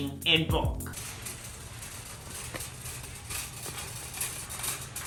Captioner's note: cart rattles